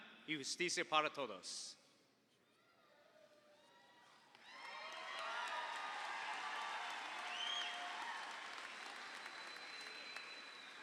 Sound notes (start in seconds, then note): 4.4 audience applauds; 4.5 audience cheers